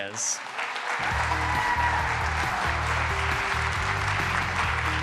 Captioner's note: applause,music playing